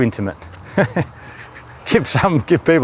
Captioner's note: laughs